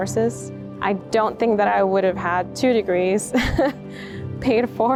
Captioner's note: chuckles